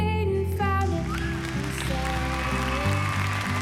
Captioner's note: cheering and applause